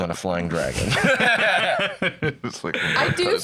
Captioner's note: both laughing